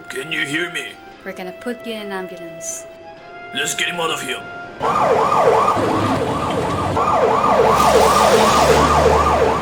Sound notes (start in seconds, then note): 4.6 sirens alarming